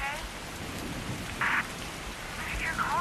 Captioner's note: static crackles